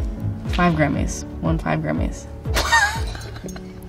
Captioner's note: laughs